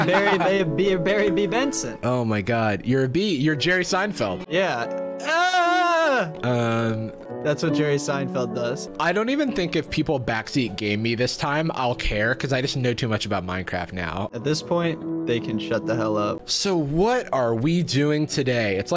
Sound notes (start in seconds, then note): 5.9 yelling